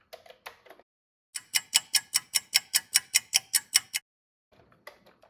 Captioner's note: sound of a ticking clock